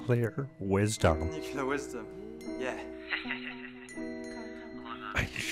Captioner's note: laughs